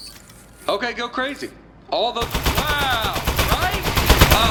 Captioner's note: bullets Begin Firing Again